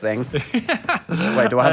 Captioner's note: Phil laughs